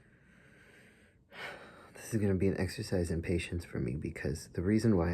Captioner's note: sigh